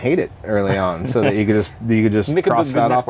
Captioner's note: laughter